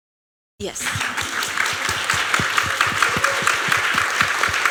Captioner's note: applause